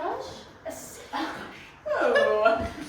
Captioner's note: whispered